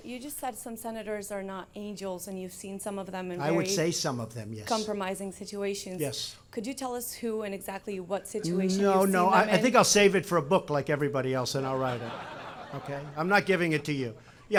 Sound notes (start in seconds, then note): 11.7 laughter